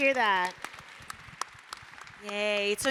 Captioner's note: applause